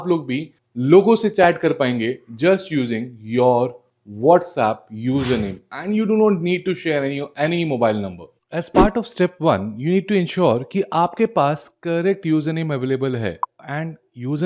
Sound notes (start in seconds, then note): 5.1 nasal sound